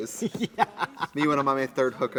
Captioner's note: Katya laughs